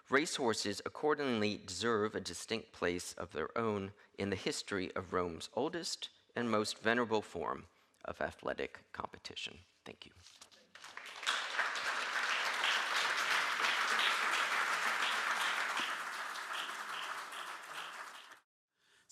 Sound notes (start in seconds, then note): 10.7 audience clapping